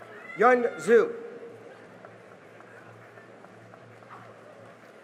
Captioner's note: cheering and applause